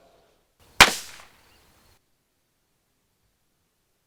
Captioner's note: gun fires